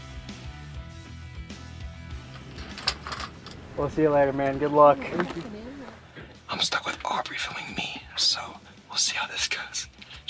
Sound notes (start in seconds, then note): 2.2 metal chair clanking